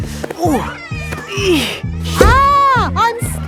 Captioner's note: grunting